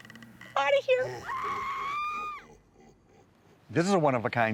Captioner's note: person screaming